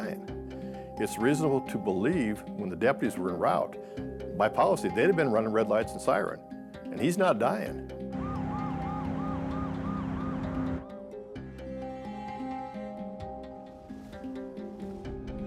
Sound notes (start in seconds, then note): 8.1 police sirens wailing